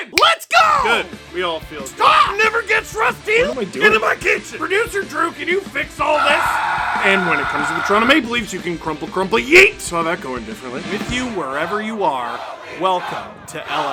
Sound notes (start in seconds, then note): 6.1 screaming